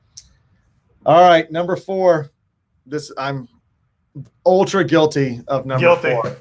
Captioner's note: murmurs